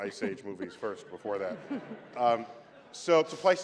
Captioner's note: laughter